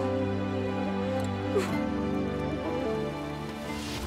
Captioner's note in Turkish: Ağlama sesi